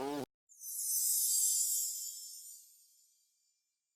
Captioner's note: sparkling sound